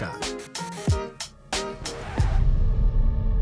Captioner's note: hip-hop music; record scratch; eerie music